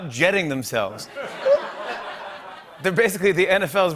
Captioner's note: laughter